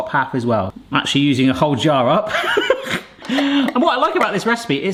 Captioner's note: laughs